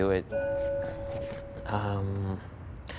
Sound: bell chimes

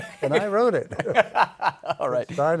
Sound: laughter

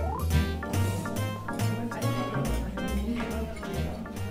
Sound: distant chatter

